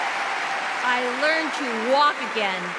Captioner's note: cheers and applause